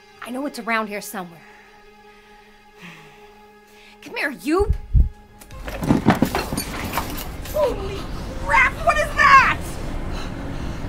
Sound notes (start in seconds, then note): 5.8 portal whooshing